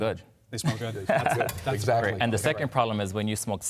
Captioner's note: laughter